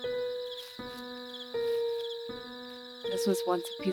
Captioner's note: somber Piano Music Plays; crickets Chirping